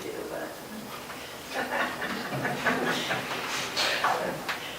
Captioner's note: laughter